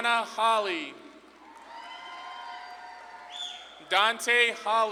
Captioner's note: audience claps and cheers